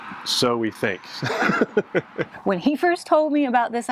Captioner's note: laughs